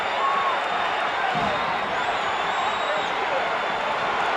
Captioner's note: audience cheering